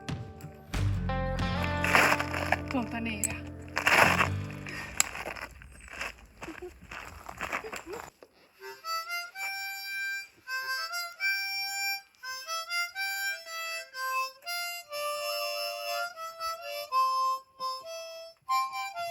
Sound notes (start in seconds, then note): 0.9 speaking spanish